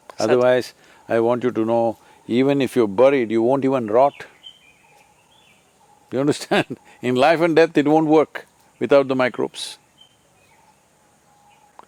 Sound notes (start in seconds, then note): 6.2 laughs